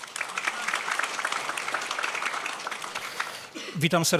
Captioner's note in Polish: oklaski